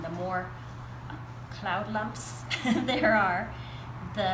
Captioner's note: laughs